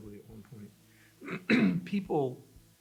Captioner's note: clearing throat